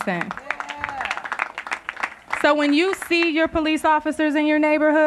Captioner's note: applause